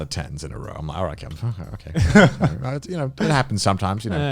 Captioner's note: Garnt laughing